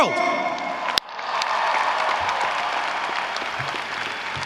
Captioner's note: audience cheering